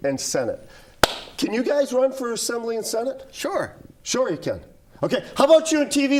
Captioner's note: claps